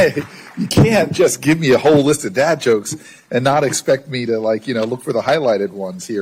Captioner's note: applause